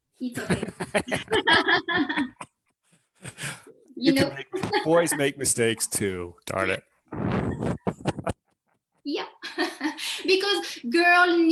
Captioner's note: laughs